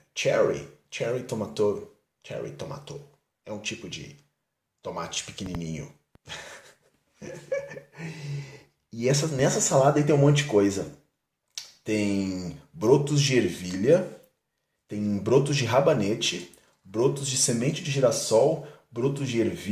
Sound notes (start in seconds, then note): 7.2 laugh